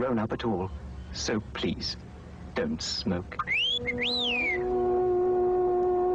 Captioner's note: R2 whistles